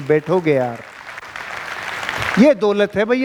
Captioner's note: round of applauses